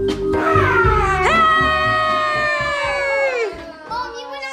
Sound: happily screaming

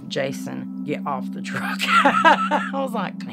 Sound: laughing

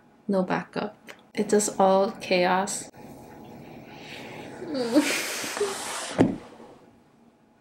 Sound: whimpers

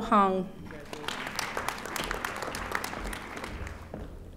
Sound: audience applauding

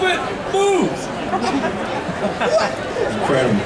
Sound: audience chattering

